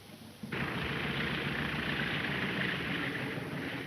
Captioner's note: engine puttering